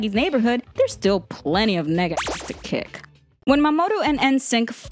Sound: beep

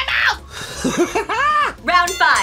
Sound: laughs

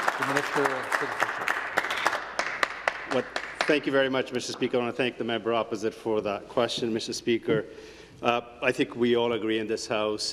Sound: some Applause

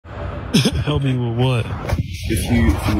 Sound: cough

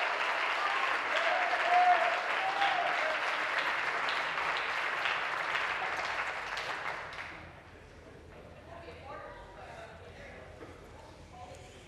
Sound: applause

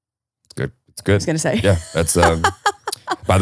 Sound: laughing

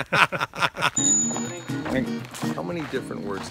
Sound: laughs; bell chimes

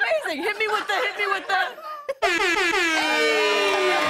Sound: air horn plays; cheers and applause

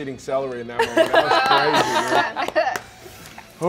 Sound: all laugh

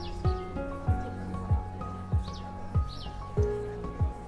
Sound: birds chirping

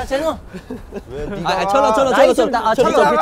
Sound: arguing

